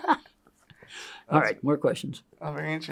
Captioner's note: laughs